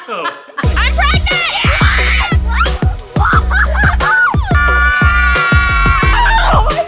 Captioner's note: children screaming